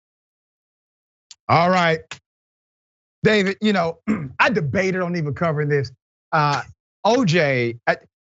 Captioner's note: cough